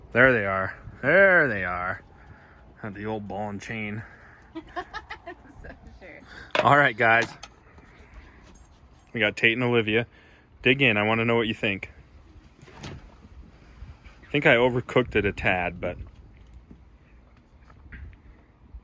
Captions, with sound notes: There they are, there they are on the old ball and chain. (laughs) All right guys, we got T and Olivia. Dig in, I wanna know what you think. I think I overcooked it a tad, but let's see.